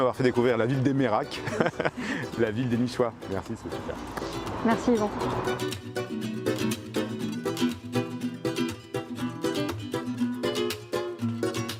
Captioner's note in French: rires